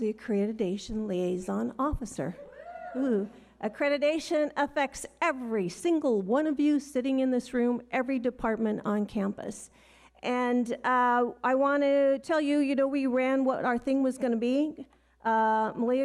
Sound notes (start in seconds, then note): 3.2 audience cheers